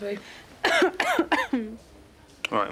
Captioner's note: jade coughs